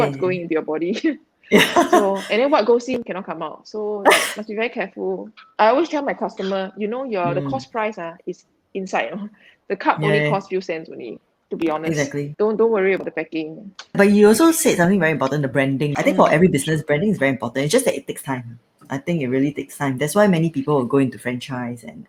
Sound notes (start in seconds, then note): 1.5 laughs